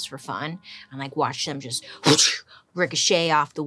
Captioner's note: exhales sharply